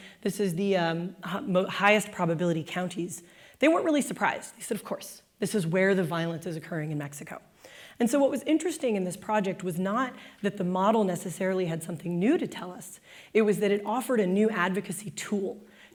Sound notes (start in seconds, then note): none